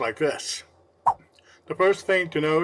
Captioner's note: swipe Sound